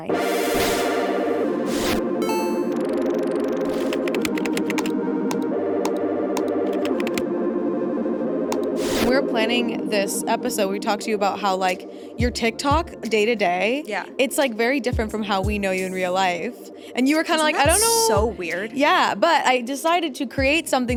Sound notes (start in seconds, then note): 0.0 upbeat electronic music; 3.9 keyboard clacking; 6.4 mouse button clicking